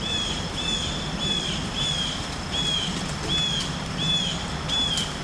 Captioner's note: bird Singing